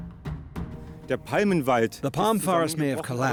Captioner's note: speaking German